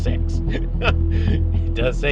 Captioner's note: nervious laugh